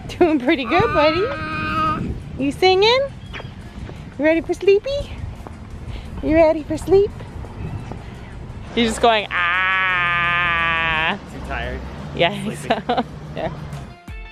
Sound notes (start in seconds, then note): 0.6 grizzling